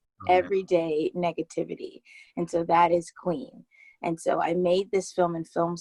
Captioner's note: laughs